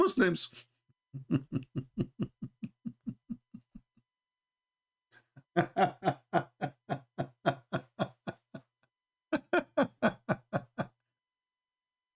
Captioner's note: Ketawa